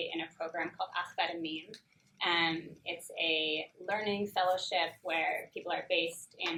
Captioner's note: in Hebrew